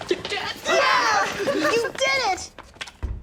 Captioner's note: cheers